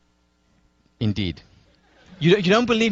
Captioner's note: laughter